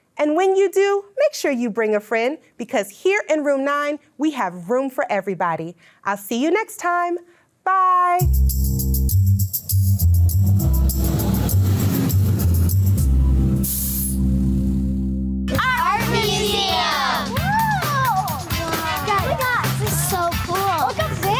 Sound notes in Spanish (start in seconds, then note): 8.3 música alegre; 10.6 silbido de tráfico; 13.2 retumbar el motor